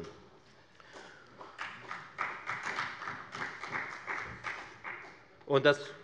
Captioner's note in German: Beifall bei der FDP